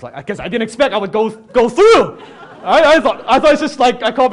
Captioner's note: audience laughs